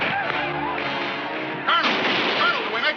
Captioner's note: gunshot firing